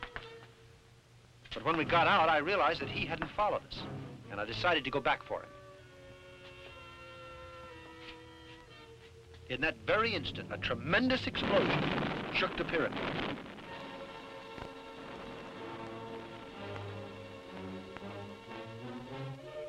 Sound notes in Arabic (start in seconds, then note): 11.7 انفجارات; 14.8 موسيقى درامية